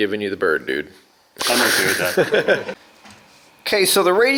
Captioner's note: laughing